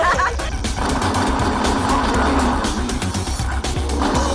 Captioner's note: laughter; gunfire